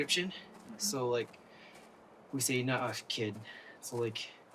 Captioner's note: speaking in Navajo